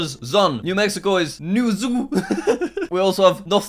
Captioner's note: laughing